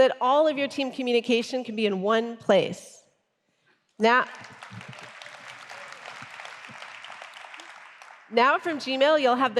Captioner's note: applause